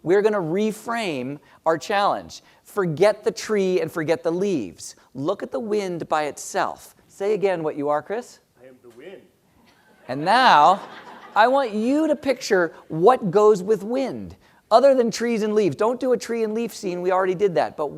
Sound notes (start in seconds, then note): 10.5 laugh